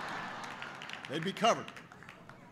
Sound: laughter

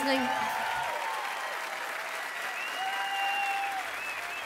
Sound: applause

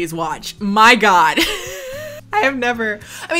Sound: laughs

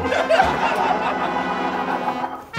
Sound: sarcastic laughter

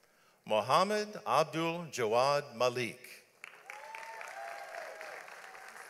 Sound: audience applauds

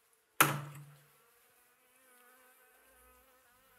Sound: humming

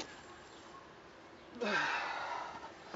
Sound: stretching groans

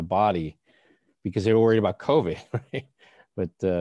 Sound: chuckles

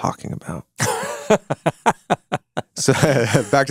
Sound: laughing

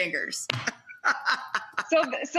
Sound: laughs

